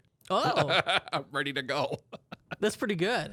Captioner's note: laughs